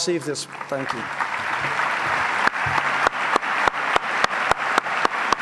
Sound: audience applauds

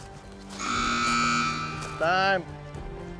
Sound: buzzer sounds

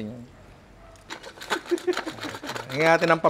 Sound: laughs

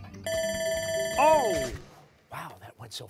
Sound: timer sounding

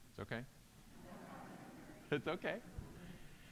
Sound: audience laughing

